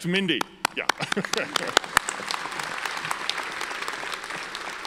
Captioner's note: audience applauds; laughs